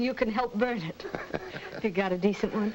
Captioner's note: Joe laughs